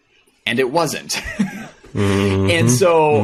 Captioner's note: laughing